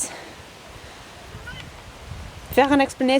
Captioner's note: meows in italics